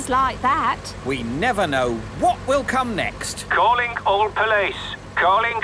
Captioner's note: radio